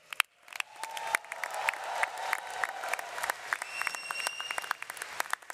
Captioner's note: audience cheers and applauds